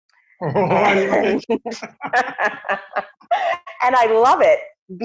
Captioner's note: laugh